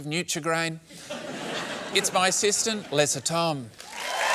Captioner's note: laughter; cheering and applause